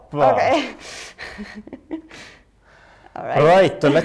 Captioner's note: laughs